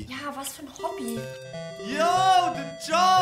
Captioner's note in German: Türklingel